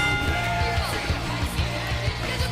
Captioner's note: bell ringing